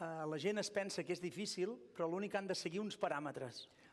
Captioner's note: non-english speech